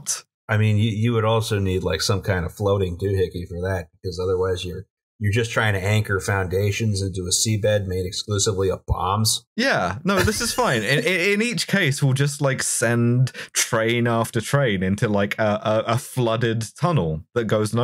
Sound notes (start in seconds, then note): 10.1 laughter